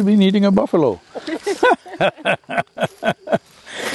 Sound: laughs

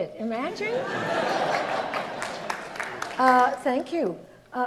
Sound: audience laughs

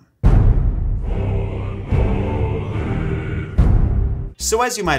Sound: drums thundering; men chanting in foreign language

